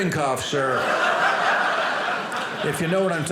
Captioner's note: audience laughing